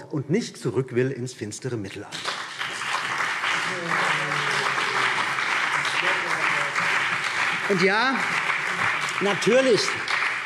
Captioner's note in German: Beifall BÜNDNIS 90/DIE GRÜNEN, vereinzelt CDU und SPD